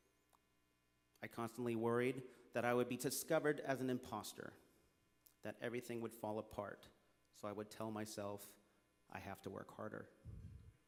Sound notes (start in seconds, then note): none